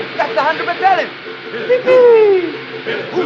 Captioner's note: cheers